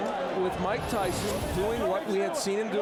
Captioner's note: applause